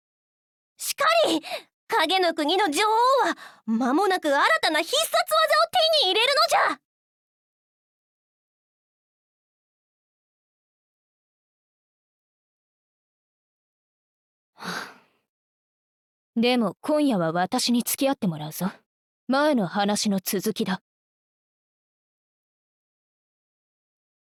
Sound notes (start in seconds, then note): 14.6 sigh